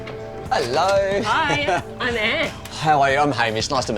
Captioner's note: laughs